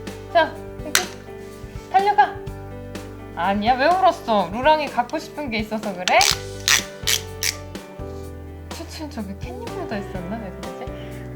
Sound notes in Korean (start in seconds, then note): 6.1 태엽 감는 소리